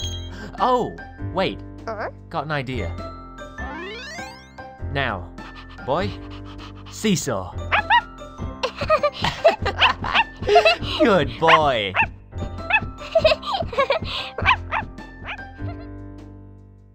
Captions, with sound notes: Oh wait! Got an idea now boy seesaw (BARK) (Laughter) Good boy!